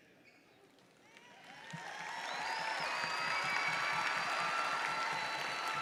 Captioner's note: audience cheers and applauds